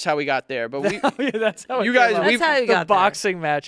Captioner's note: laughs